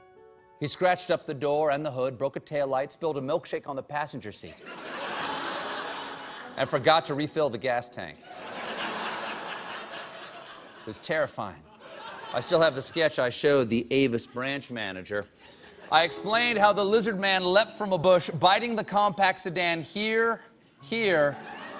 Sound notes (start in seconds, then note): 8.2 laughter